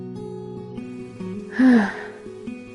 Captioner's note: sigh